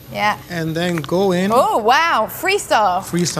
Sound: laughs

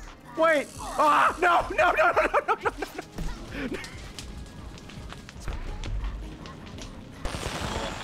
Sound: laughs

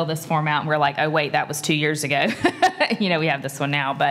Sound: laugh

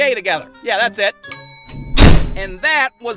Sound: the bell rings and doors are closing

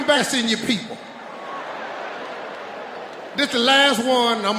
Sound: audience laughing

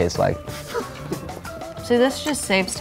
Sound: laughs

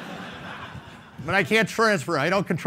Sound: laughing

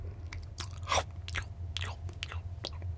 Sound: chewing

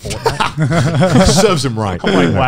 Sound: everyone laughs

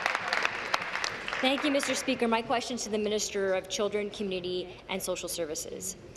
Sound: applause

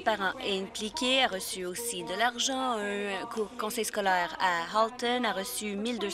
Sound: speaking french

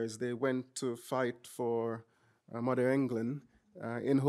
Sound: none

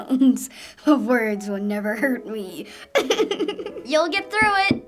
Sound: laughing

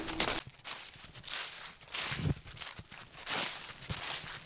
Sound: none

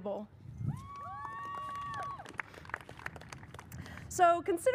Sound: audience cheers and applauds

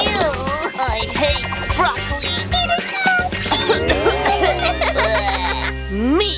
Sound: coughs

